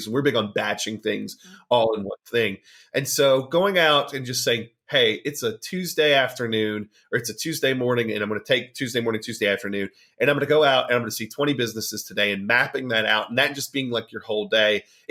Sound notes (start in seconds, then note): none